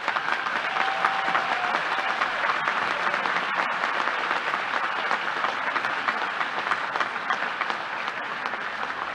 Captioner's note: applause